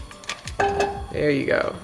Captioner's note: butter clinks